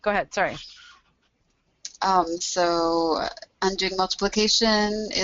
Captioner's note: voiceover